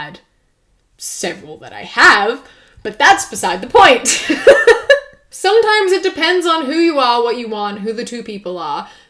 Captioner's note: laughs